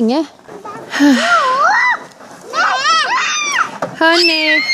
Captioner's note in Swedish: barnen bråkar